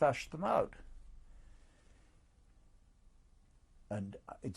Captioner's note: pauses for 3 seconds